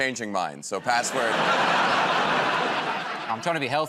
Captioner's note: laughter